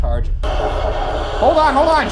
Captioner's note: device hisses and thrums